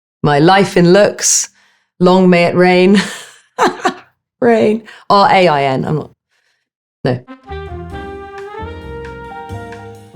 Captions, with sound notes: - My "Life in Looks," long may it rain. [Alexa laughing] Rain, R-A-I-N. I'm not, no. [jazz music]